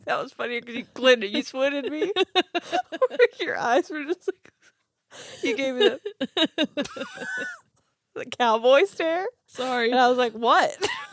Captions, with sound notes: I think that was funny 'cause you Clint Eastwooded me. Your eyes were just like- (giggling) You gave me the- (giggling) the cowboy stare. - Sorry. - And I was like, what?